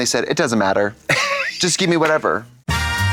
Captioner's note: Katya giggles